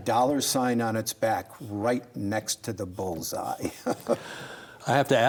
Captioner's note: laughs